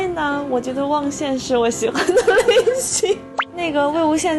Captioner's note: hehehe